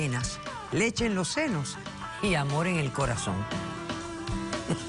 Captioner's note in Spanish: Ríe